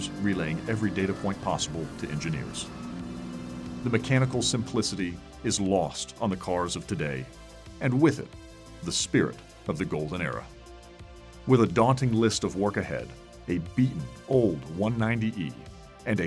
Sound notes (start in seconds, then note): none